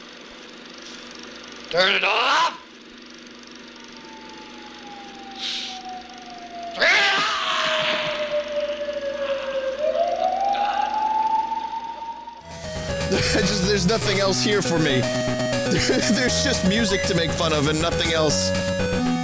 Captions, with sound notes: -Turn it off!!! [Police sirens in the distance] -TURN IT OFF!!! [Laughs] There's nothing else here for me.. There's just music to make fun of, and nothing else!